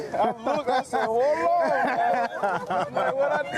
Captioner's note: all laughing